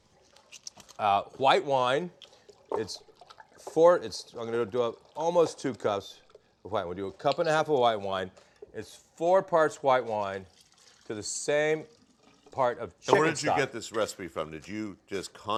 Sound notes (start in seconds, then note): none